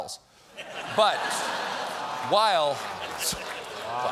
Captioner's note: laughter